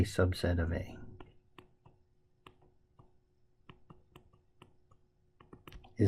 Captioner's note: tapping Sounds